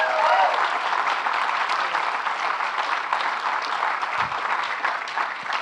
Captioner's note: audience clapping and cheering